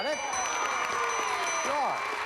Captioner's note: cheers and applause